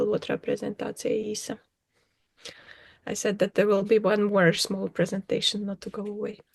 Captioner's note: talking in Latvian